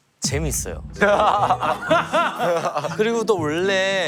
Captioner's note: laughing